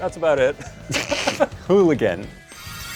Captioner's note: laughing